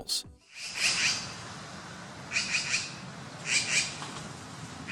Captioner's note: magpie chirping